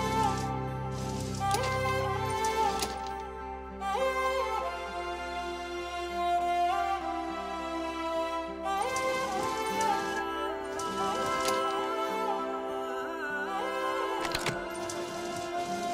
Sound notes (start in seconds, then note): 0.1 Elevator closing; 9.0 Elevator opening and closing; 14.2 Door opening